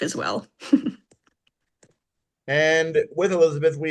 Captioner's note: laughs